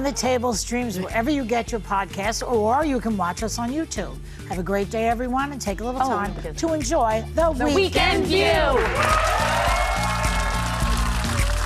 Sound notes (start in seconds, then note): 7.8 cheers and applause; 10.0 audience applauding; 11.0 upbeat music